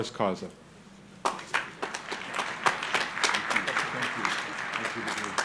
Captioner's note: crowd applauding